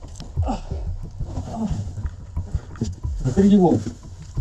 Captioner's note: cries of pain